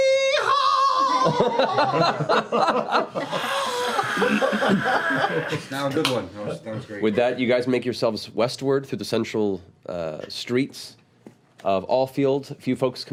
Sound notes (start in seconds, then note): 2.5 laughter